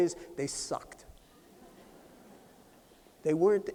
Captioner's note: laughter